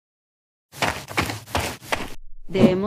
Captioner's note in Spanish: FX - Footsteps - On Multiple Dirt - Run; FX - Whoosh - 03